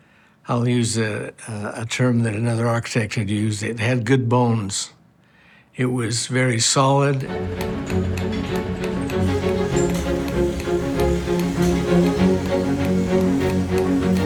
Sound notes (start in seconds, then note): 7.2 tools clanking